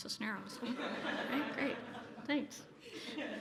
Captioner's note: laughter